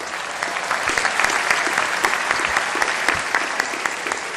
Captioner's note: applause